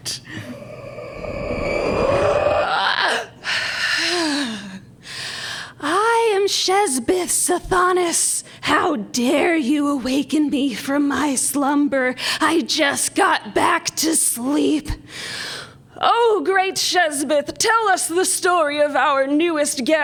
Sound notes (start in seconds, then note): 4.5 demon voice; 14.5 spooky voice